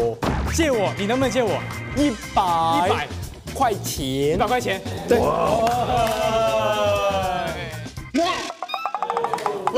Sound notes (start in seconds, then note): 1.7 reciting in slow motion